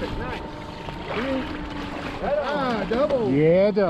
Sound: fish thrashing

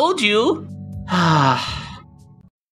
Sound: sigh

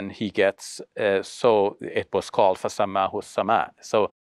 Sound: speaks foreign language

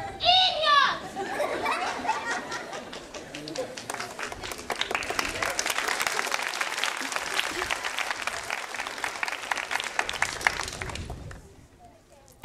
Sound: applause

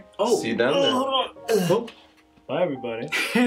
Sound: Mr. Root strains

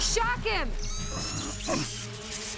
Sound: electricity crackles

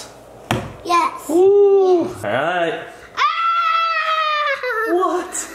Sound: screams

